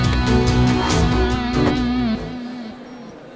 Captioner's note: Car door closes